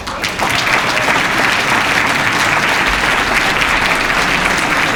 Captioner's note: cheers and applause